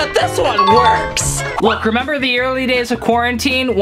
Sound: bells ring

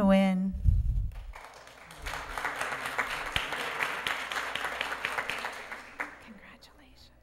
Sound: applause

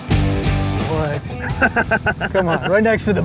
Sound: heavy Rock; laughing

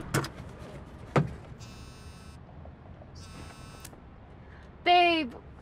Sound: cell phone buzzing

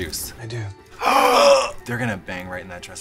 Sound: both gasp

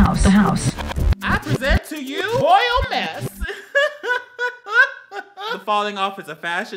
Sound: laughs

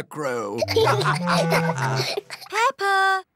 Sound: laughter

